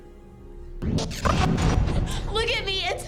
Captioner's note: rapid startling swooshes